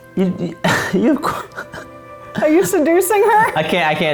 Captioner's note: laughing